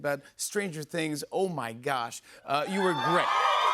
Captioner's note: cheers and applause